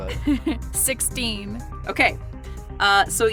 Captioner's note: chuckles